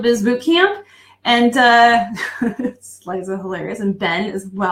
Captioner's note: laughing